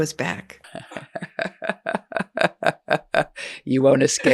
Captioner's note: chuckling